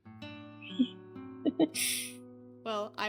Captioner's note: DAMIEN laughs awkwardly